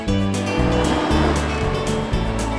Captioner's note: ATV roaring